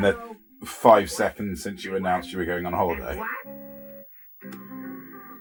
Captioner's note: phone rings